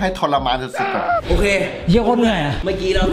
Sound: pat

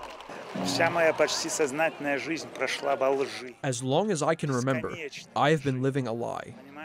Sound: through translator

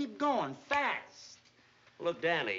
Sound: snaps fingers

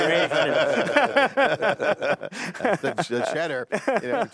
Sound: laughing

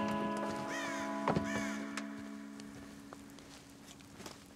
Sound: bird squawking

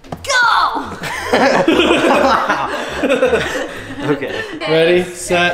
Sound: all laughing

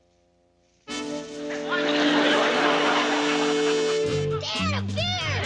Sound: quirky music; audience laughing

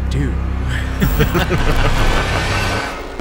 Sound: laughing

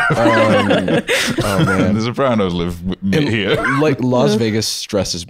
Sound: all laughing

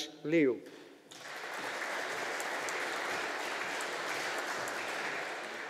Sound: audience applauding

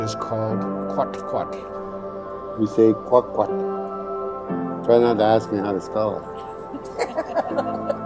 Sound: laughing

